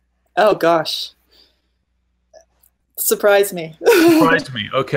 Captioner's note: laughing